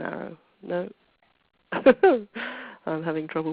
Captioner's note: laughs